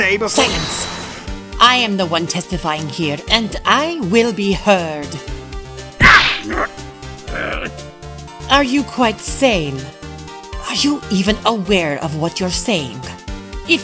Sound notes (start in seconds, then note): 6.0 growling